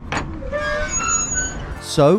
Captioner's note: gate creaking